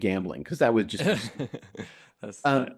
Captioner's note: laughs